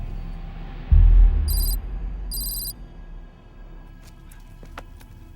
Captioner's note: letters clicking